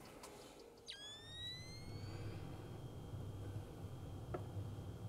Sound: night-vision camera whirs

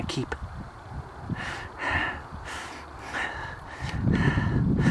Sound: heavy breathing

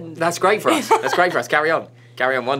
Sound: laughs

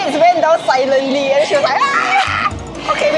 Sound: screaming

